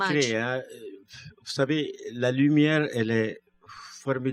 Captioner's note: speaking french